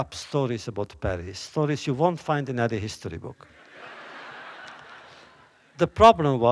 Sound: laughter

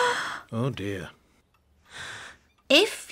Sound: all gasp

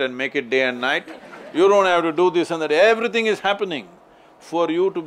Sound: laughter

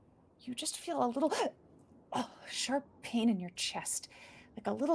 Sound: gasping

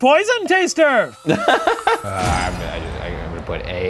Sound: laughing

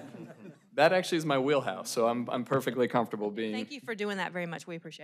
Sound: laughter

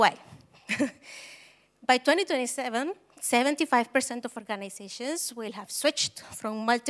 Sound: chuckles

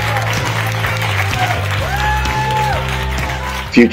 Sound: applause

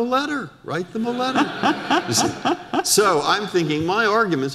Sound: audience laughter

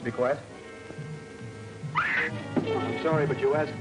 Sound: woman screams

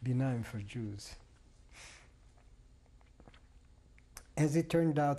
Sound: pauses for 3 seconds

